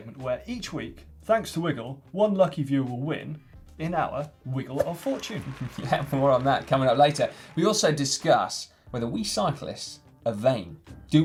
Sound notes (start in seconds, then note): 6.0 laughing